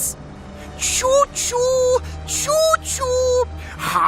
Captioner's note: mocking; deranged laughter